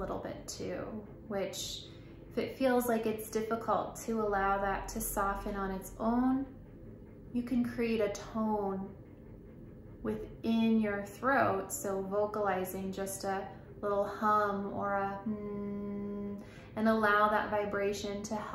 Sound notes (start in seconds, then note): 11.8 humming sound